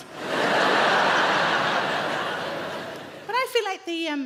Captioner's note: audience laughing